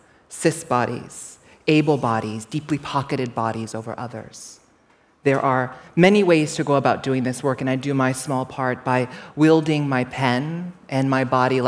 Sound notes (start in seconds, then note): none